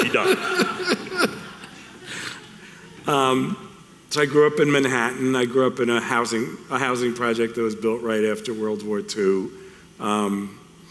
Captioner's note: laughing